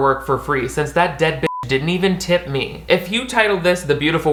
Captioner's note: beep